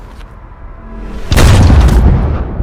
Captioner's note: gun Shot